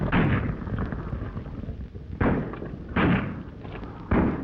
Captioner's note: gunshots banging